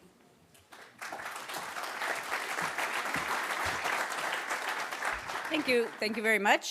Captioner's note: applause